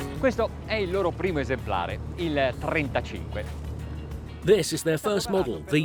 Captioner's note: relaxing music; speaking foreign language